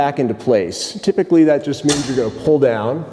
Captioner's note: lever clicks